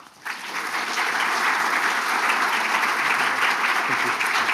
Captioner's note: audience applauds